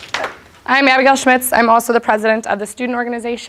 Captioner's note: applause